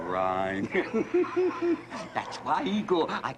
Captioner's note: laughter